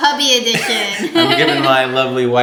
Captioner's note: laughs